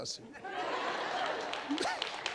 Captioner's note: audience laughing; audience clapping